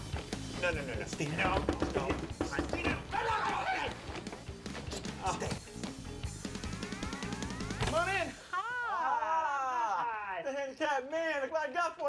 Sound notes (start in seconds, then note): 3.1 screams indistinctly